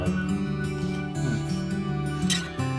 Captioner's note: nonverbal grunt as interjection